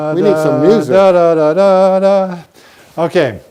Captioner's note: humming